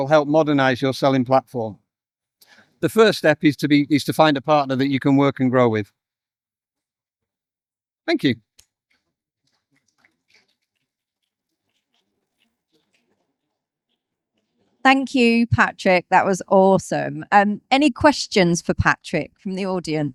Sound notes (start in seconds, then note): 9.4 audience Applauds